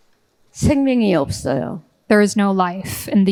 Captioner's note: speaking in foreign language